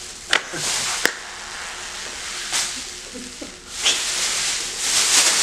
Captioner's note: emergency blanket rustling